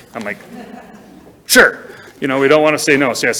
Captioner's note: people chuckle